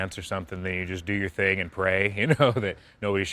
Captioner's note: laughs